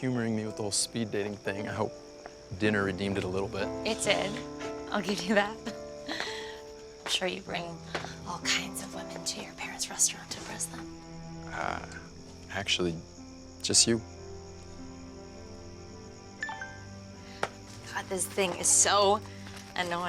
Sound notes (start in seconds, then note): 16.4 phone chimes